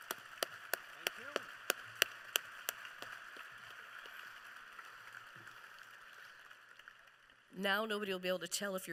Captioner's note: applause